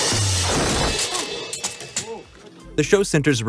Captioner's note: crashing